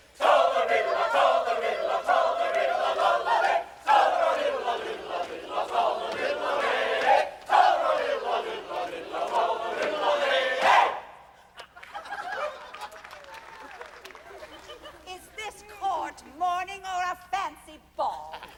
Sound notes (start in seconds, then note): 11.4 laughter